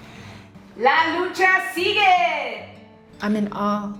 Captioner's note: in Spanish